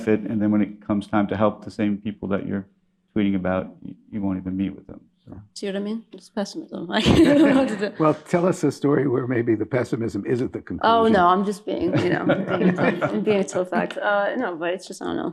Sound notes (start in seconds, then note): 5.2 laughs; 11.8 all laughing